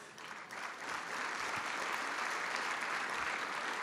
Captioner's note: applause